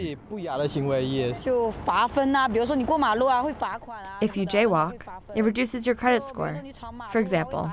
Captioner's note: through translator